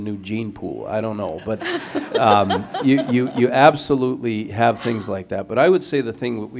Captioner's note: laughter